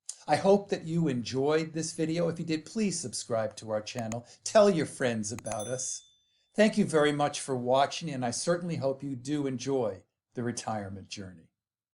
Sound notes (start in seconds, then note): 4.0 clicking; 5.4 clicking; 5.4 bell rings